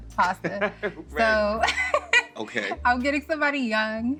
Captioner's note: laughs